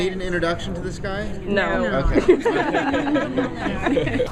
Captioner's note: laughter